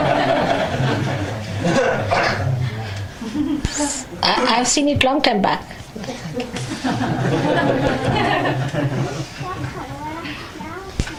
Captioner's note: laughter; laughing